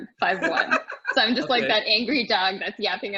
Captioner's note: laughing